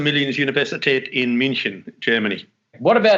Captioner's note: speaks in German